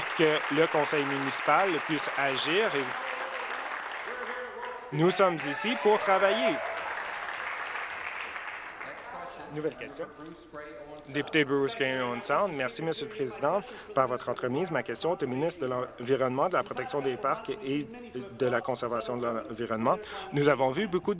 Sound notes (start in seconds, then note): 0.0 applause; 2.0 continued applause; 10.1 applause